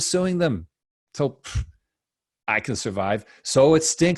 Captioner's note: scoffs